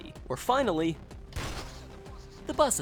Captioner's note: crash